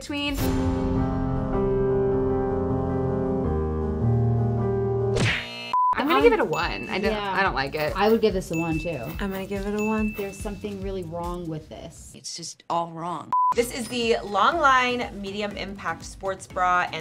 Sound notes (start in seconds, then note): 0.0 soft music; 5.5 buzzer; 6.0 bell rings; 13.3 beep